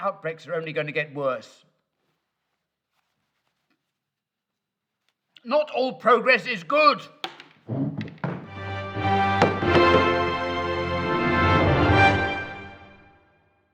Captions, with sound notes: These outbreaks are only gonna get worse. (clip-on mic shuffling) Not all progress is good! (mic clatters) (chair slides) (dramatic news intro music)